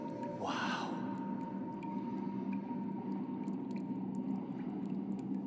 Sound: water gently splashing

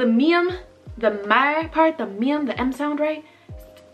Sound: speaking Korean

